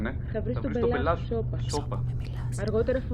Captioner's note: voices intertwining